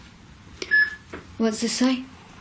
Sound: loud beeping

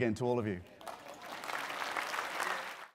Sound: applause

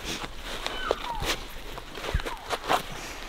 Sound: caller cow calling

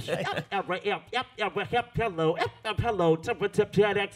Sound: beatboxes

